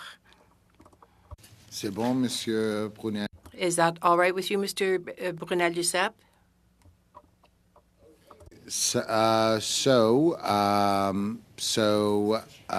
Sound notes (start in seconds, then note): 4.6 speaking French